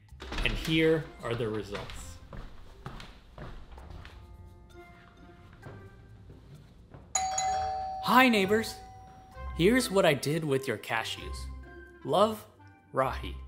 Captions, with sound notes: And here are the results. [Foot steps] [Playful music] [Doorbell] Inner Voice: Hi neighbors! Here's what I did with your cashews. Love, Rahi.